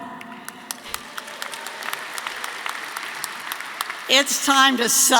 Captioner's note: audience applauding